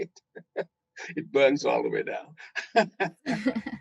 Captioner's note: laughing